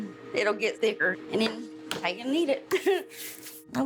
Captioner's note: chuckles